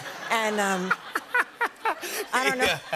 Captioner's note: laughter